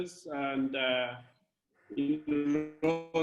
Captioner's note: distortion